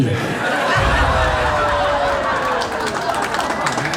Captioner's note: crowd laughs